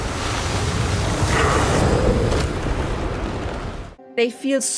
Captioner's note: swirling storm sounds and enemy screams